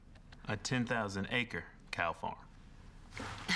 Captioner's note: sighs